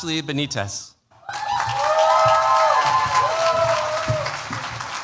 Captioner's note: cheers, applause